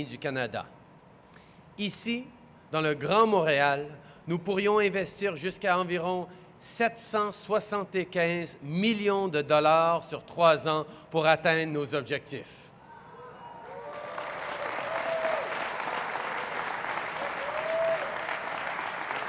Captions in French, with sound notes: Ici, dans le Grand Montréal, nous pourrions investir jusqu’à environ 775 millions de dollars sur trois ans pour atteindre nos objectifs. (Applaudissements)